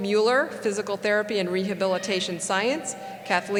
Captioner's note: cheering